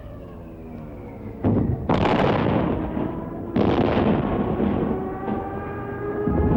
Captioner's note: sirens; explosions